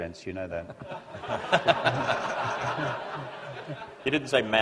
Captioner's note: laughter